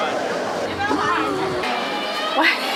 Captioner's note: gasping